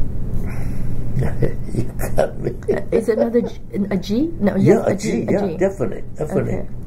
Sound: laughs

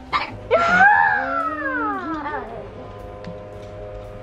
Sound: screaming

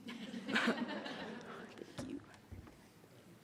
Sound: audience laughs

